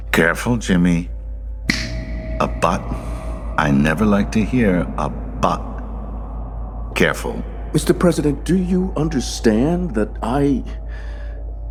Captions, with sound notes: Careful Jimmy. (finger snap) A "but." I never like to hear a "but." Careful. Mr. President, do you understand that I...